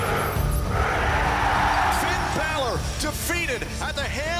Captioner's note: crowd cheering